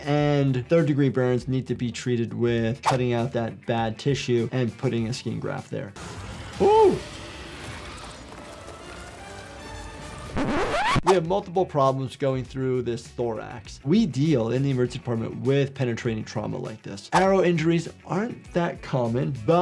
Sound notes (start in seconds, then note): 6.0 intense music; 10.2 record scratching